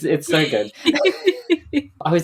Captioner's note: laughing